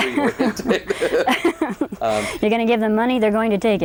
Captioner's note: laughing